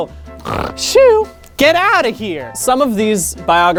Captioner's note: snoring noises